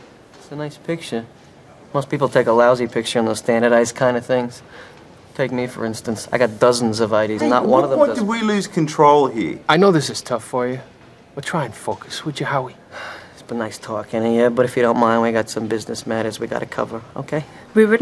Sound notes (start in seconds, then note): 12.9 sigh